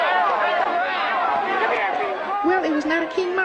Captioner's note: female voice